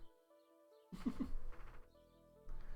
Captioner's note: chuckles